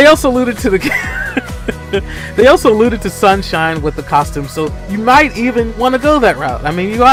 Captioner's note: laughs